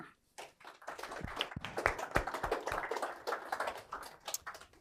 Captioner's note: applause